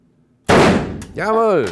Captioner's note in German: Schuss